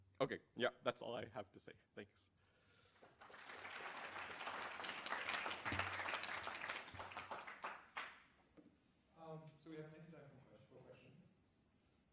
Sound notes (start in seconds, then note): 3.0 applause